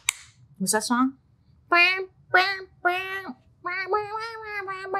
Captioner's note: claps; hums " "